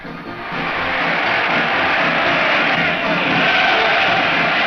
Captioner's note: crowd cheering